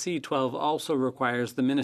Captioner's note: speaking French